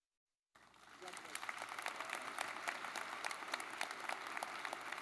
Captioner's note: audience clapping